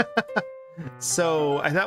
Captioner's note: laughing